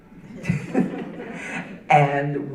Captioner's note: audience laughing